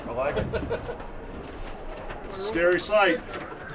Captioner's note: laughs